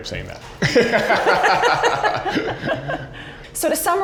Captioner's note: laughing